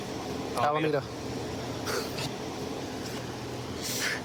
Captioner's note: laughs